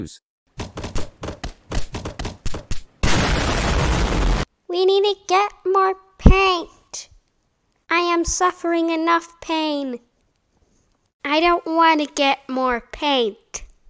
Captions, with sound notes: (Painting Noises) (KABOOM) We need to get more paint. I am suffering enough pain. I don't wanna get more paint.